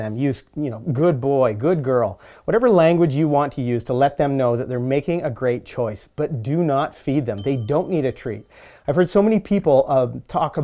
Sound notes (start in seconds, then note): 7.4 bell dinging